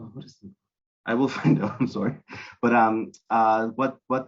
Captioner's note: brief laughter